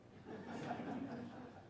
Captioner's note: laughter